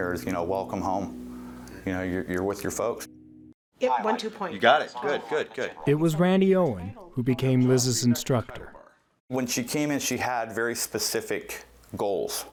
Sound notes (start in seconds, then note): none